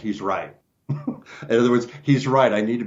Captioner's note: laughs